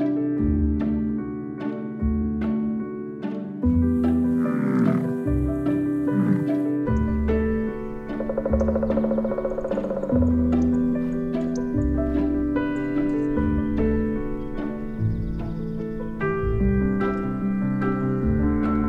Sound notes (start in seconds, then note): 4.3 grunting; 6.9 woodpecker knocking